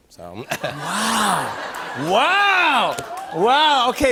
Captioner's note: laughter